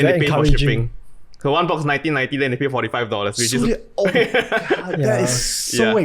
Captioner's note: laughs